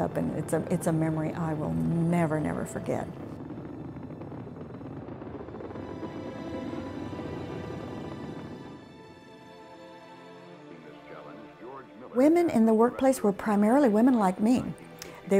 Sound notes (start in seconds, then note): 3.3 rocket rumbles; 6.2 soft dramatic music